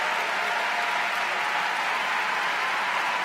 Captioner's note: cheering